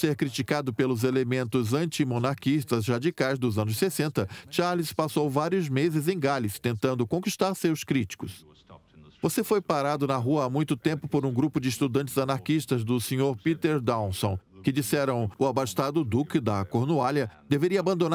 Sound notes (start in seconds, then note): 0.0 voiceover; 8.0 voiceover